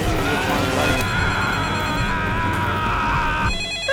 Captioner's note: electricity buzzing; screaming; phone ringing; gasping